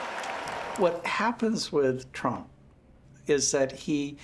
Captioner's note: crowd cheering